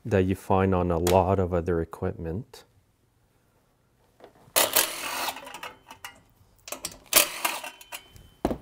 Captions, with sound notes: that you find on a lot of other equipment. (driver tool roaring)